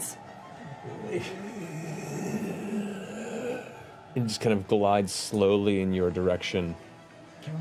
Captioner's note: moaning